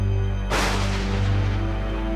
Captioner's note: thunder